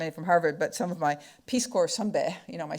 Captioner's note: speaking foreign language